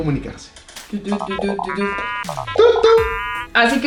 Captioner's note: robot sounds